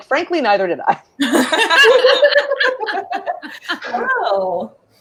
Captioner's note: all laughing